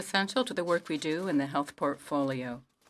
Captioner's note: speaking French